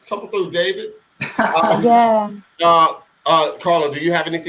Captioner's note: laughing